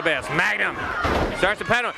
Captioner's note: crowd chatter